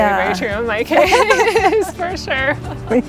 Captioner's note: laughs loudly